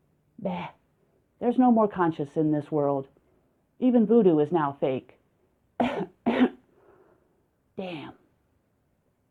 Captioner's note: cough cough